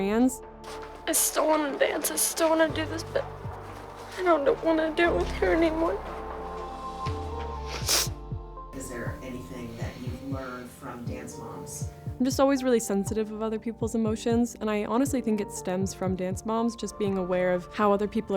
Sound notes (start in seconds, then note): 7.6 sniffles